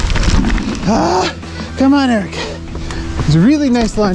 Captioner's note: grunts